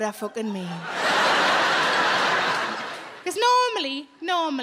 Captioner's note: audience laughs